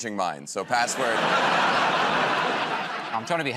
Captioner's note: laughter